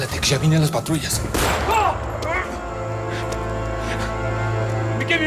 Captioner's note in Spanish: Disparo; Grito